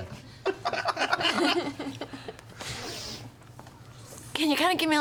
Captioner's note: laughter